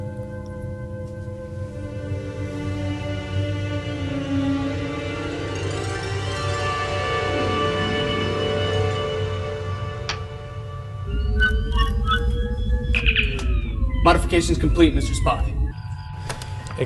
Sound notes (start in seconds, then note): 11.0 communicator chirp